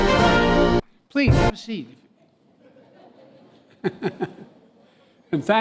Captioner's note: laughter